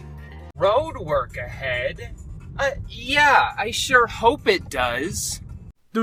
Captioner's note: The vine "Road work ahead? Yeah I sure hope it does" plays